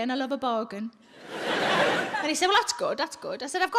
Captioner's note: audience laughs